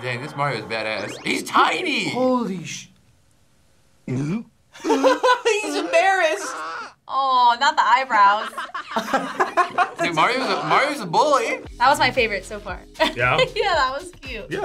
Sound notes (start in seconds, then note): 3.9 Bowser gulps; 4.8 laughs; 8.1 laughs; 13.5 laughs